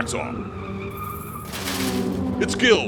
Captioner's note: tires screeching; hot wheels cars crashing